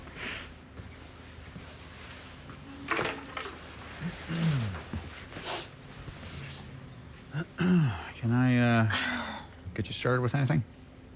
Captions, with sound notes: [bartender clears throat] [clears throat] Can I, uh, get you started with anything?